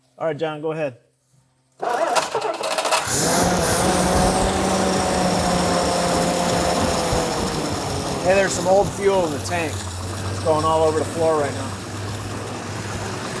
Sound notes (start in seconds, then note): 1.9 engine starts; 3.6 engine revs